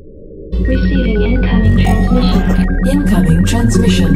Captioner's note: voiceover